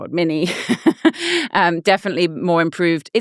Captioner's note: laughing